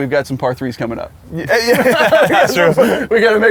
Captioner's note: laughs